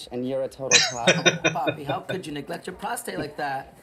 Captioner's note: laughing